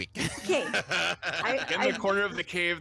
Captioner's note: freely laughs